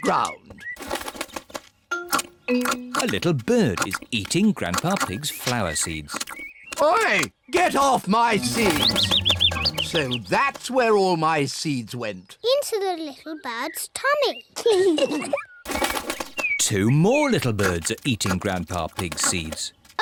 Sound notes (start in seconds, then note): 8.4 bird tweets; 14.7 both giggle